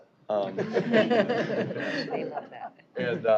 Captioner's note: laughter